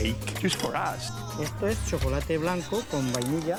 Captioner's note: speaking Spanish